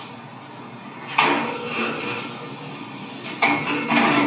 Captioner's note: metal clanging